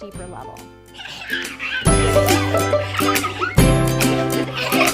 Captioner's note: children laughing